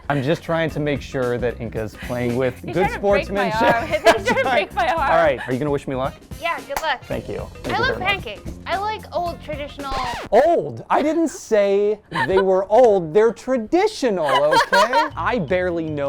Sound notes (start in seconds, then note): 9.8 record scratching; 14.2 laughing; 14.2 playful music